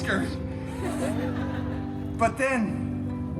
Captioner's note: guests laughing